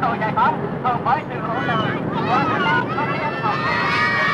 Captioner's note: kids cheering